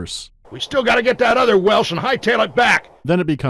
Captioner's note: harsh, crackling audio